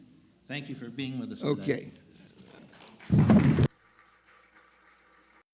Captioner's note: audience applauding